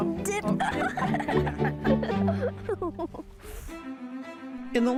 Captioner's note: sound of children's laughter